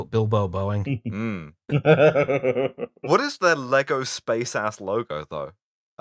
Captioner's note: laughter